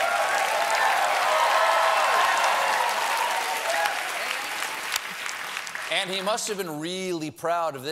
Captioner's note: applause